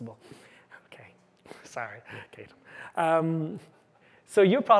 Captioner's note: chuckles